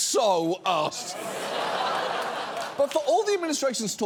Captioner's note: studio audience laughs